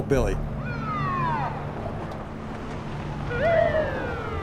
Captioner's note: siren blares